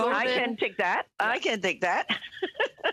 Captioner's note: chuckles